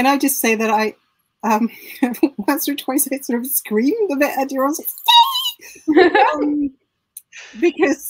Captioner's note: excited whoops